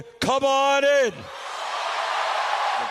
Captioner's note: cheering and applause